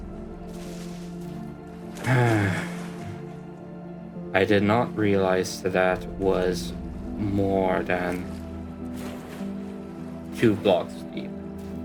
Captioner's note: sigh